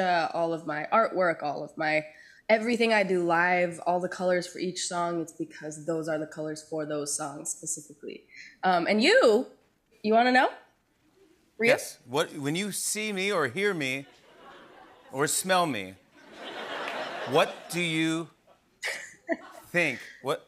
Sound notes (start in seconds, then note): 16.2 laughter